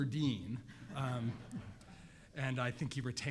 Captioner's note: crowd laughing